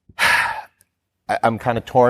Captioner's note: sighs